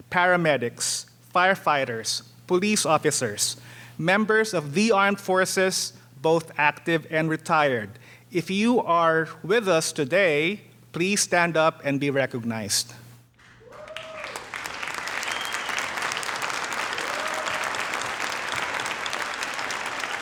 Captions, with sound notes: paramedics, firefighters, police officers, members of the armed forces, both active and retired. If you are with us today, please stand up and be recognized. (audience cheering) (audience applauding)